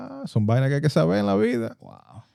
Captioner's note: speaking Spanish